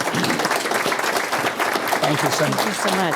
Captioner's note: applause